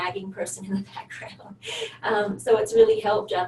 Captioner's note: laughs